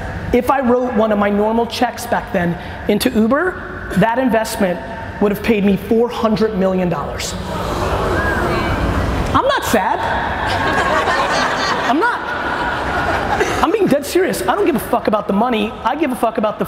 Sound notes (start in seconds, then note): 10.2 crowd grumbling; 12.6 crowd laughing